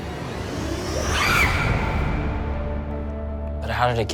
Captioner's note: Cindy screaming